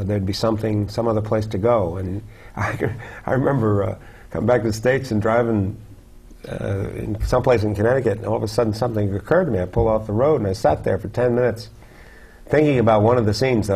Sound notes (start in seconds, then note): 2.6 chuckle